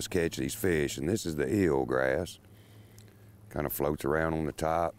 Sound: none

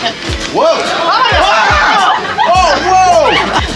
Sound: Ed screams

